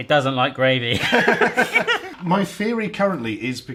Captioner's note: laughs